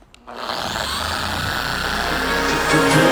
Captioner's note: machine whirring; hip hop music